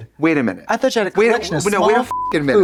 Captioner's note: beep